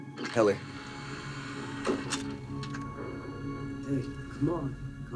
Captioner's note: device hums and clicks